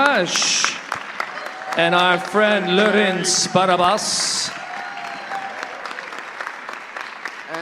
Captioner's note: applause